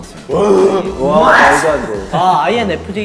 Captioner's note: yelling